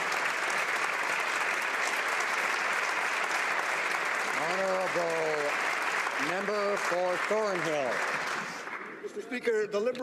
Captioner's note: some Applause